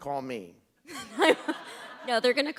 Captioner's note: laughter